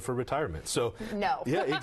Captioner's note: laughs